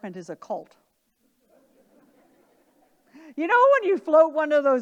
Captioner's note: audience laughing